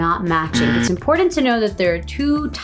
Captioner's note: buzzing sound